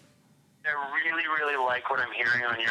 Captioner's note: on phone